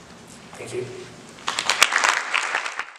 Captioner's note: audience applauds